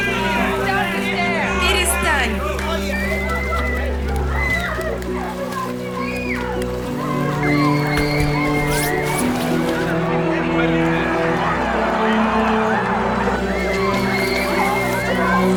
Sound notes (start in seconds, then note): 3.7 kids yelling